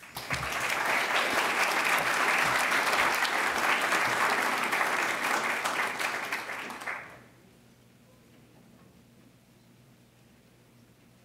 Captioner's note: applause